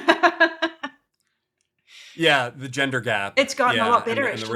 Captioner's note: laughs